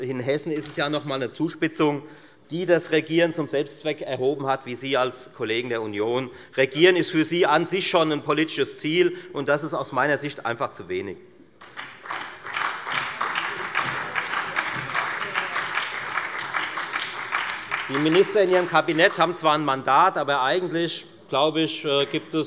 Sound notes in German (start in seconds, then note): 11.6 Beifall bei der FDP und bei Abgeordneten der SPD